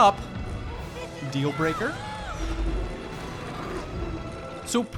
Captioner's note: children shouting